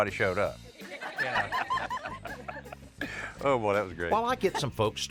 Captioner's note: laughter